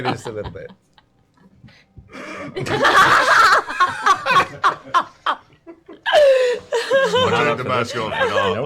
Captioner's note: laughter